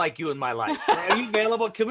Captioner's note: laughs